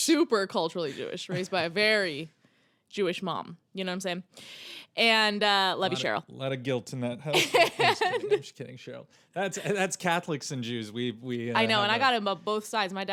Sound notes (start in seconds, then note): 7.4 laughing